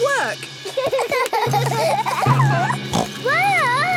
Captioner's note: children giggling; snorts